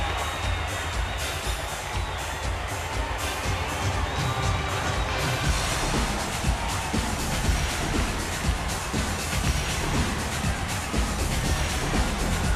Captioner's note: crowd cheering